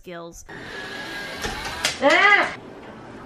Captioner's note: sounds of the souls from hell rising up to get revenge